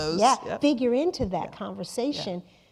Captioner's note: laughing